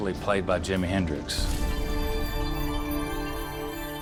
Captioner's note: wind chimes